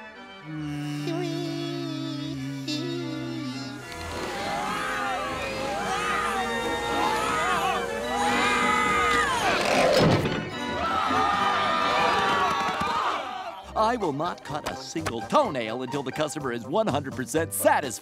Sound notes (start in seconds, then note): 4.1 screaming